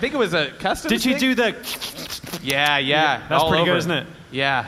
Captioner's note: slobbering noises